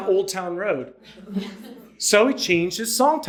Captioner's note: audience laughing